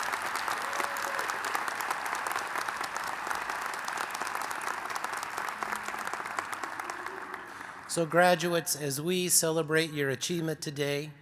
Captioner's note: cheers and applause